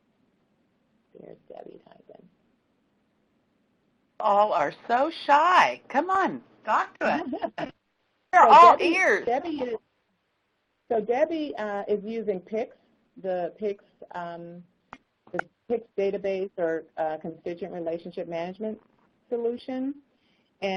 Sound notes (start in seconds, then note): 10.2 audio cuts off